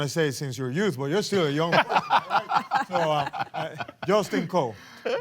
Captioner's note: laughter